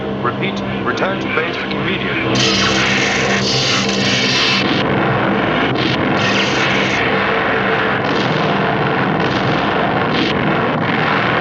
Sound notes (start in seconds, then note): 2.5 eletricidade crepitante; 4.8 explosões rugindo